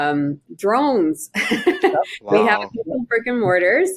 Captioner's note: chuckling